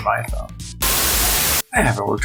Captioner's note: Static